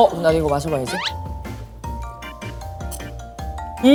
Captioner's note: gulp